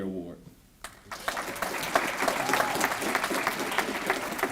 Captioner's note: applause